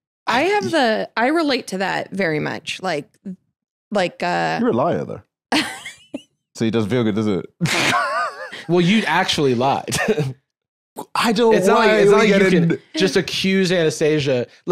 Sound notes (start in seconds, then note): 5.5 laughs; 7.6 laughs